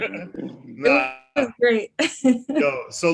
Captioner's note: laughs